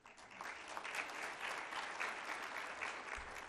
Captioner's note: applause